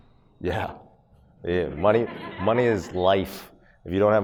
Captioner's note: audience laughs